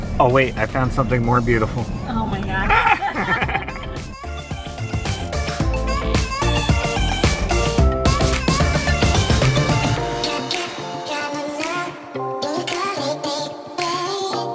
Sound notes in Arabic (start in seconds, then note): 2.6 كلاهما يضحك; 4.4 موسيقى نطاطة متفائلة